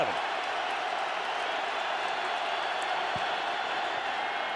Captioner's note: cheering